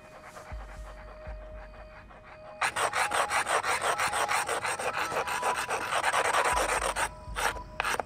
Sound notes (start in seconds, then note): 1.0 rock scratching